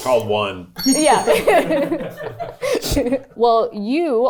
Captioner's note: laughs